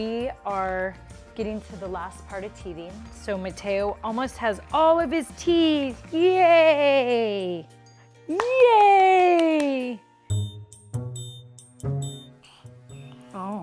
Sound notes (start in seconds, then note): 8.3 applause